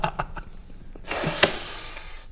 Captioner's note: slam